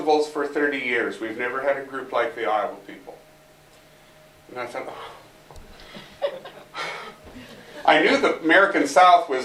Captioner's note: sigh